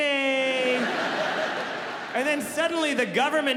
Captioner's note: audience laughing